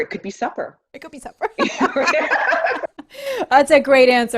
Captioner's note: laughter